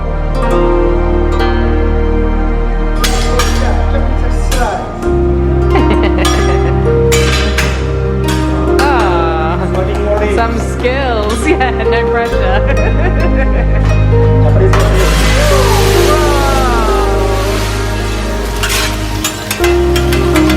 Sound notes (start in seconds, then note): 0.1 gentle music; 2.9 utensils clanking; 4.0 chef chattering; 5.7 laughs; 14.7 fire fizzing; 18.8 utensils clanking